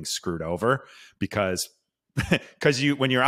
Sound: chuckles

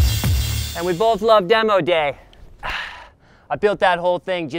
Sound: sighs

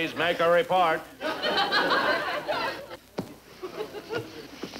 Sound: audience laughing

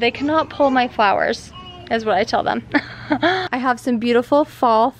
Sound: laughs

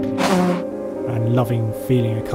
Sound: car zooms

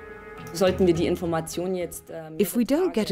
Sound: speaking in foreign language

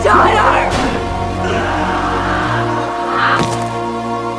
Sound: screams; impacts

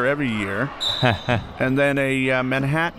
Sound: whistle

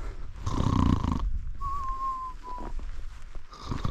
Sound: me making fake snoring noises

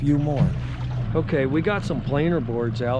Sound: boat engine idling

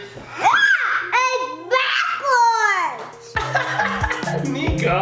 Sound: screams; laughs

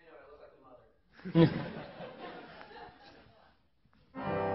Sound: laughing

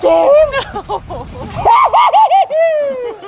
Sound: laughs; spooky laugh

